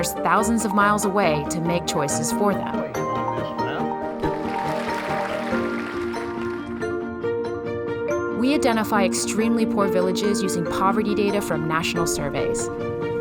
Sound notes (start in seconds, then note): 4.1 crowd clapping; 6.0 bright music